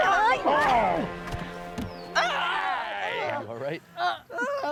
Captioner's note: yells